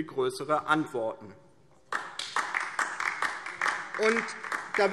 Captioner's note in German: Beifall DIE LINKE